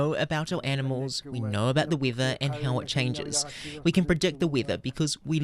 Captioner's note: speaking Indigenous Language